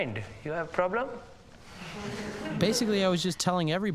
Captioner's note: all Chuckle; 全笑